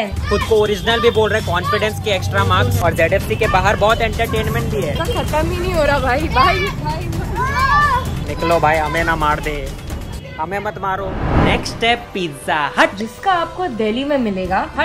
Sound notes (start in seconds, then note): 6.3 children noises